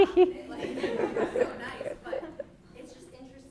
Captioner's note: laughing drowns out speech; audience laughing